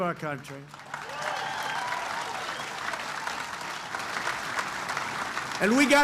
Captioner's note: applause